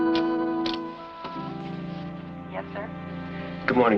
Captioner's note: on phone